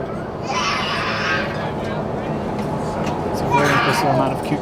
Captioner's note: baby crying